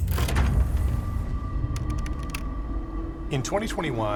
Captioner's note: dramatic music; letters clacking